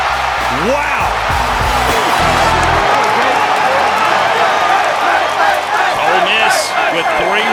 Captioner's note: cheering